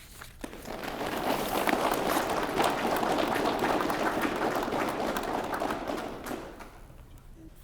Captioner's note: applause